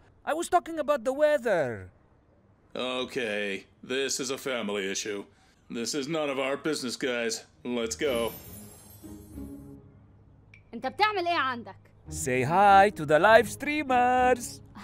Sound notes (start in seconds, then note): 0.0 speaks foreign language; 7.8 magical twinkling; 10.8 speaks foreign language